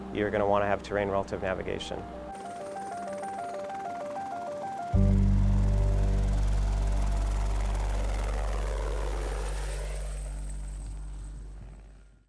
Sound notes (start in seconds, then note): 2.2 upbeat music; 3.4 helicopter blades turning